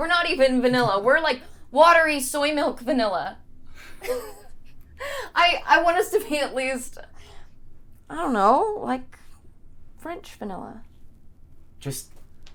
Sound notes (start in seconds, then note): 4.0 small laugh